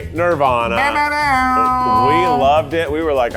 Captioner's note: imitates an air horn